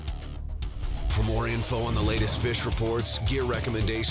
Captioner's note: voiceover